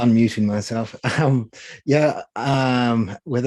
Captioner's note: chuckling